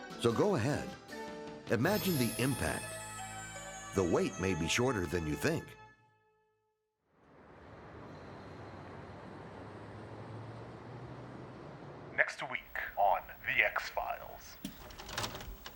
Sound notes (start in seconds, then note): 7.2 traffic humming; 14.6 tape whirring